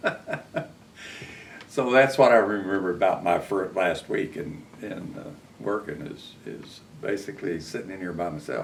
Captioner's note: laughs